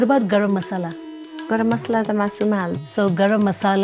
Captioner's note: speaking Nepali